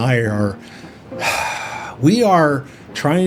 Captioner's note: sigh